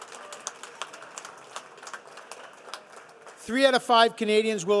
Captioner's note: audience applauding